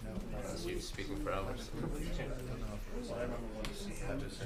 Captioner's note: people chattering